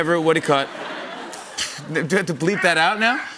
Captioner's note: laughter